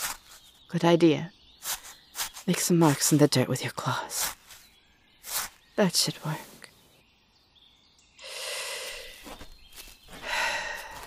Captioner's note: deep breath